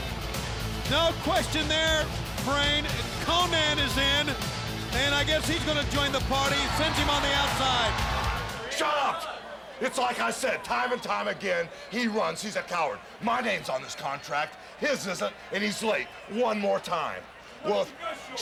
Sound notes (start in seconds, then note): 8.1 audience cheers; 9.2 people chattering